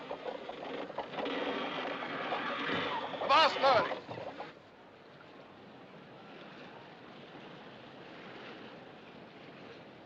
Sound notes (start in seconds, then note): none